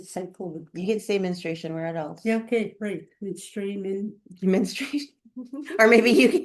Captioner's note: laughter